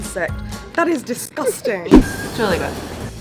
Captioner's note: laughing